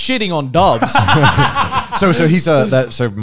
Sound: men laughing

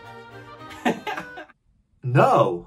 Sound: laughs

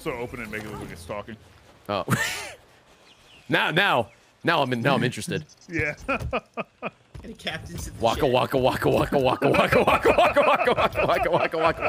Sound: laughs

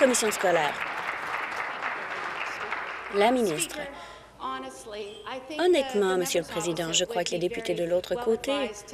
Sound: applause

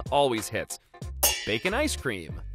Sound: pans clanging

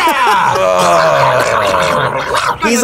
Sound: grumbles

